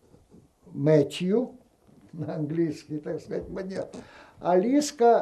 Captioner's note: laughing